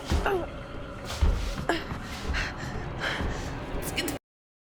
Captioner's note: Claire grunts